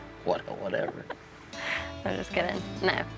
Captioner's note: chuckles